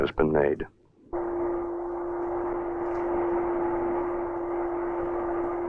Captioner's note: machinery whirring